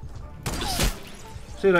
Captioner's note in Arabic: نيران المدافع